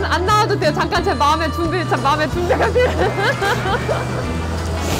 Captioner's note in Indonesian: tertawa